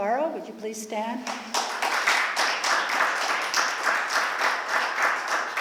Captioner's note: applause